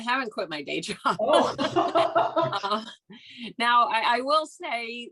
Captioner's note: both laughing